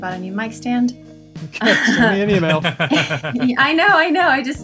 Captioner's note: laughter